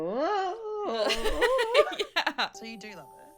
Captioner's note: laughs